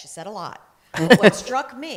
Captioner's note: laughter